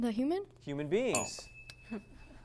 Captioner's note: ding